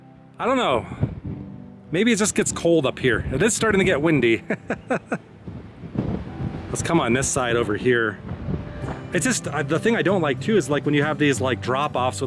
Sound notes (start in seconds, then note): 4.4 laughs